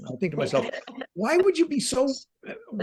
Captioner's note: laughing